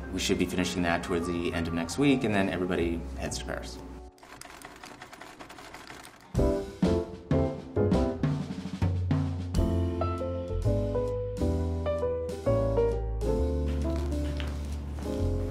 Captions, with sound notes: We should be finishing that towards the end of next week and then everybody heads to Paris. [sewing machine clacks] [upbeat instrumental music]